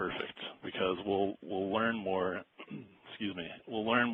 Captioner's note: clears throat